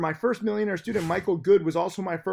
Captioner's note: air whooshes